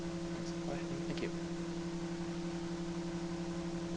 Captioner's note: voiceover